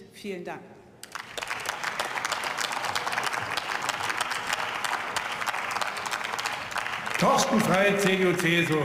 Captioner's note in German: Beifall